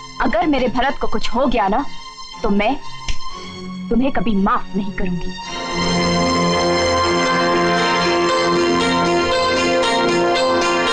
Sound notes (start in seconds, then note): none